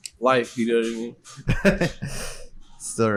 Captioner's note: laughs